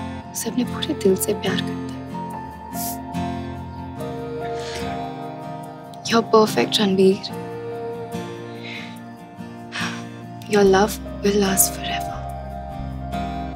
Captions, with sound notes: he loves it wholeheartedly. [Chuckles] You are perfect, Ranbir. [Sighs] Your love will last forever.